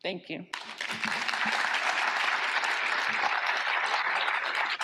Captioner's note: applause